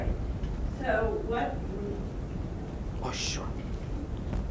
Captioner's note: whispering